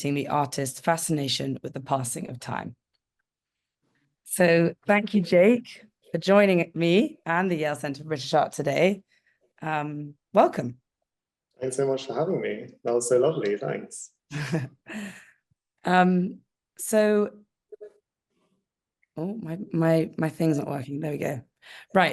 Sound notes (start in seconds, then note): 16.3 laughing